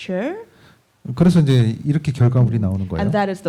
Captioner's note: speaking korean